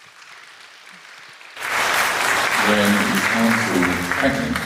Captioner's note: applause